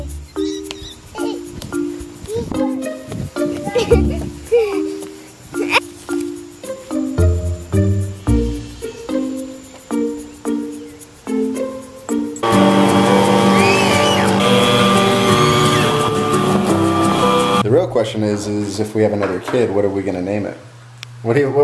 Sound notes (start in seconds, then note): 0.0 childlike music; 12.4 buzzing